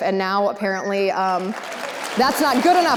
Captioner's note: audience applause